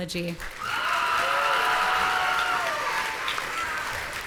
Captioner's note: audience cheering